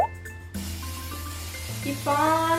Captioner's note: spraying